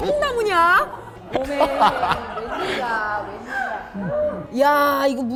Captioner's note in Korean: ㅋㅋㅋㅋㅋㅋㅋㅋㅋㅋ